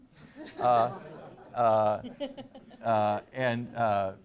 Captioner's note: laughing